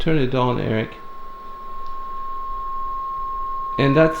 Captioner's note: continuous tone